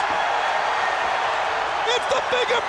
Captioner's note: crowd cheering